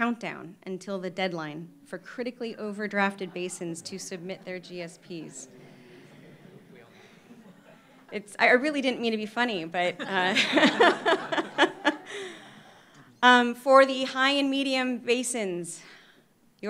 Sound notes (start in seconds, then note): 5.7 audience chattering softly; 9.9 laughter